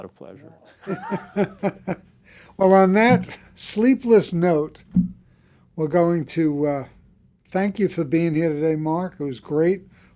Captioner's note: chuckles